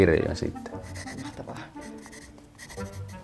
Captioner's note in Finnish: Kynä rapisee